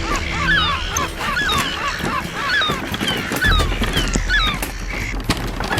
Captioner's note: gulls squawking manically continues